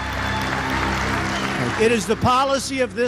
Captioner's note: applause